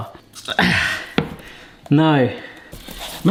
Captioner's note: grunts